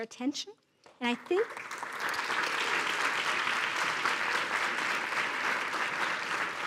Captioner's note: applause